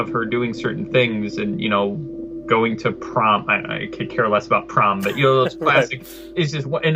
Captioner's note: laughs